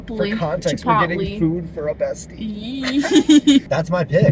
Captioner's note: laughter